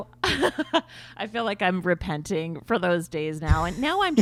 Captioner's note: laughs